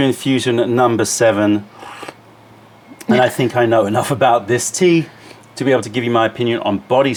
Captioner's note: sips tea